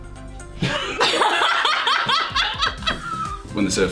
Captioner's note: laughing